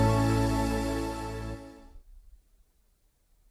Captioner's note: music ends...Silence